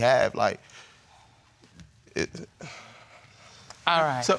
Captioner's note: stammers